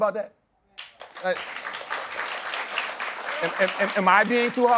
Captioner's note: applause